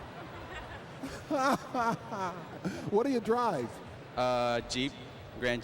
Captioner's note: chuckling